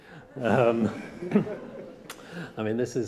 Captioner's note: laughter